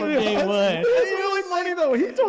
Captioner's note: all laughing